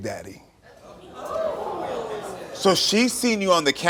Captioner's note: audience reacts curiously